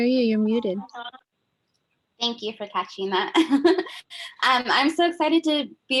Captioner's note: chuckles